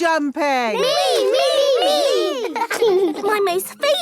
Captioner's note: laughing